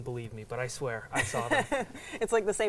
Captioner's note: laughing